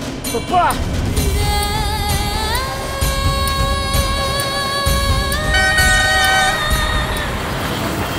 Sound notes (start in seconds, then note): 1.2 dramatic music; 5.4 horn honking